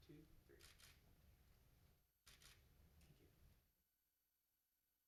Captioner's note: camera clicking